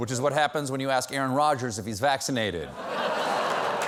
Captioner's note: applause; laughter